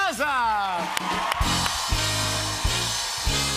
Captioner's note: cheers and applause